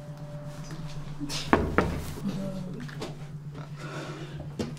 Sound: knock at door

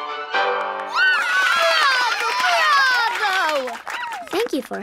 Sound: cheering

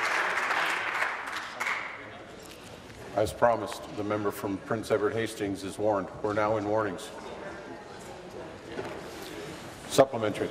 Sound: applause

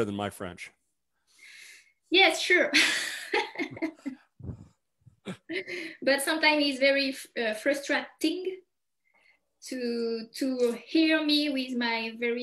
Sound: laughs

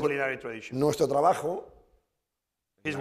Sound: speaking spanish

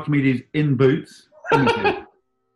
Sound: giggling

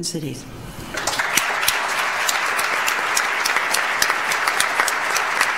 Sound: audience applauds

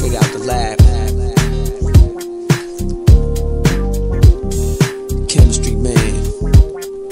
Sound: record spins back

